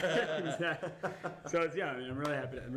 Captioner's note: laughter